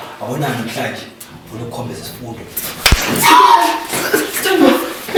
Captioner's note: Zulelihle screaming